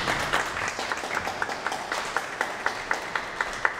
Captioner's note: audience applauds